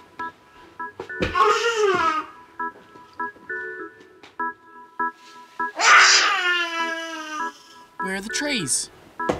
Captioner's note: baby noises